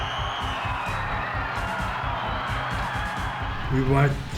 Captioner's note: crowd cheers; intense music